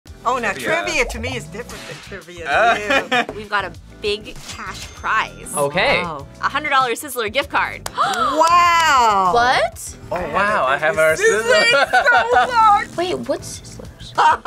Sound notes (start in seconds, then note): 2.9 laughs; 7.9 gasps